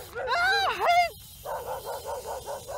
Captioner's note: screams; dog barking